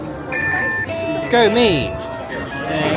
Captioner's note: beeping